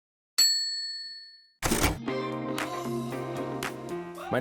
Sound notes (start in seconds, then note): 1.6 typewriter dings; 2.0 upbeat jazz music